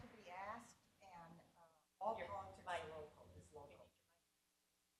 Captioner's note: speaking faintly